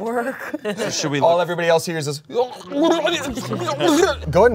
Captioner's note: grumbles